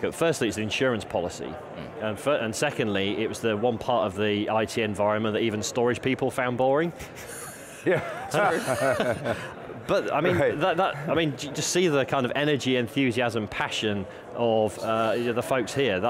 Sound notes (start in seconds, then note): 7.2 laughing